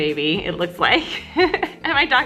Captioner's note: laughs